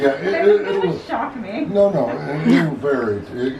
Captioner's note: laughing